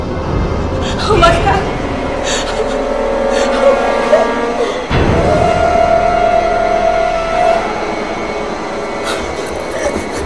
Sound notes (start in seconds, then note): 2.2 Ciara sobs; 7.0 tense music